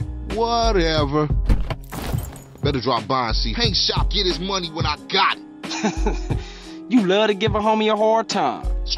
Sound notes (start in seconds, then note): 1.4 opens the car's door; 5.7 chuckles